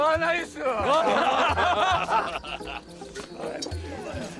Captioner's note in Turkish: Gülme sesleri